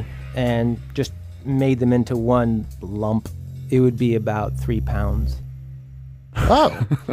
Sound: laughs

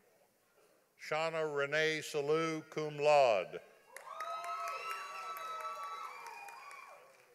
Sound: audience applauding

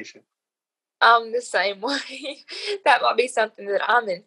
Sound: laughs

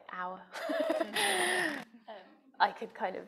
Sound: laughing

